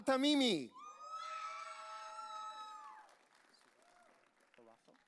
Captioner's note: audience cheering